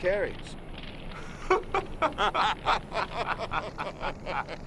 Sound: laughing

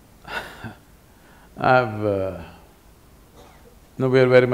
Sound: laughs

